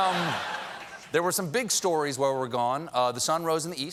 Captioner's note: laughter